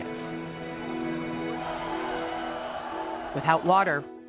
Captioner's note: crowd yelling